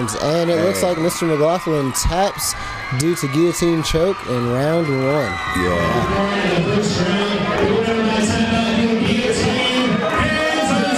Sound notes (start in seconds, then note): 6.5 crowd cheers